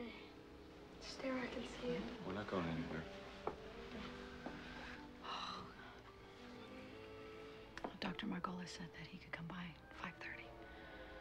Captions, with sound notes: Okay. Stay where I can see you. We're not going anywhere. [ Sighing ] Dr. Margolis said that he could come by at 5:30.